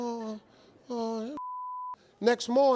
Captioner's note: beep